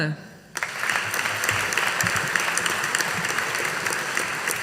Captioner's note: audience applauding